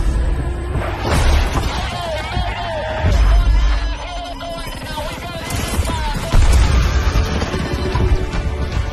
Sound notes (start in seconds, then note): 2.1 calls for help over radio